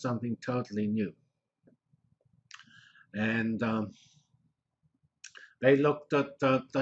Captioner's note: pause